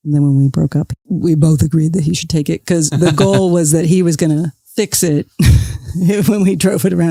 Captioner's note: guffaw